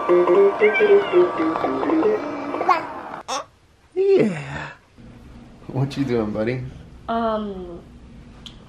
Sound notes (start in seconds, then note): 3.2 cooing